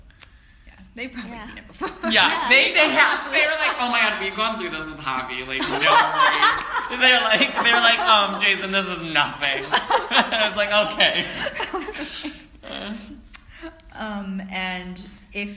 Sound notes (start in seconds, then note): 2.3 everyone Laughs; 12.8 laugh